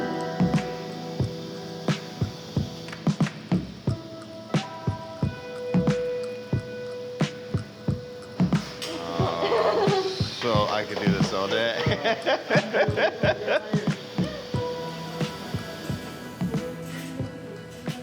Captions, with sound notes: (intriguing music) Oh, I could do this all day (laughs). (intriguing music)